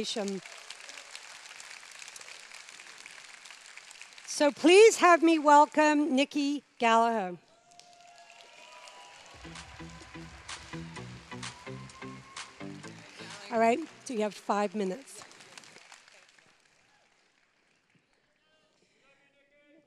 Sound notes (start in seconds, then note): 0.0 applause; 7.4 cheers